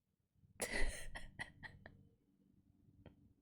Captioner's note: laughs